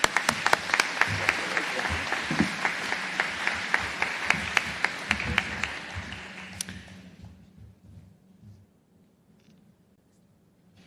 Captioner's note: applause